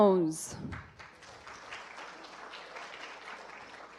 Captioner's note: applause